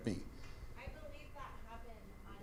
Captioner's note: speaks faintly